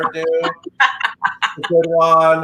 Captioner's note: laughing